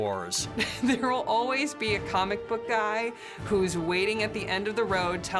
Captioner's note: chuckles